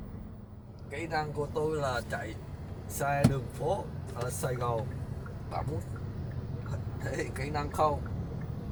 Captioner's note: in vietnamese